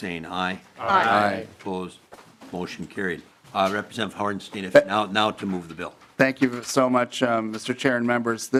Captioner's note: chorus of ayes